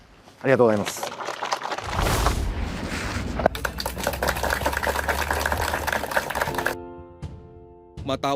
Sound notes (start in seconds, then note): 0.5 applause